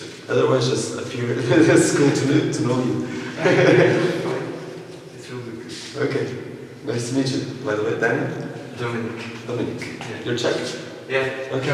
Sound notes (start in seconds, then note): 3.2 laughters